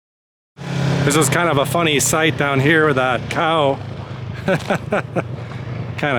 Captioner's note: laughter